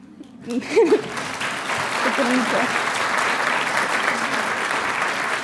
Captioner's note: audience applauding